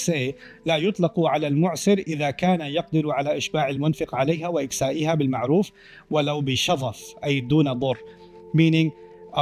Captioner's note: Arabic